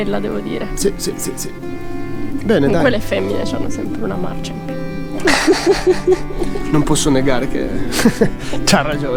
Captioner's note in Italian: risate